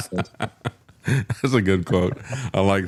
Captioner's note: laughing